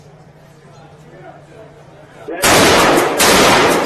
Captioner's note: gun shots